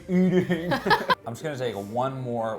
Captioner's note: laughing